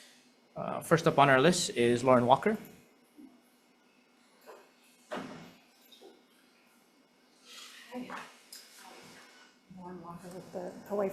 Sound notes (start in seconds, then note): none